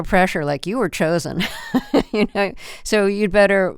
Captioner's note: laughter